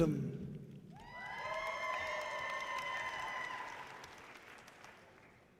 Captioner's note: audience cheering loudly